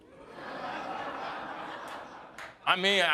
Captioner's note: audience laughing